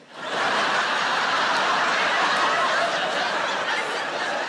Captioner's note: audience laughs